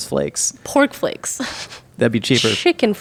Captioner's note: laughing